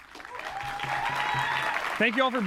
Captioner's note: applause